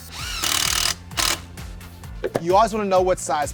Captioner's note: drill whirring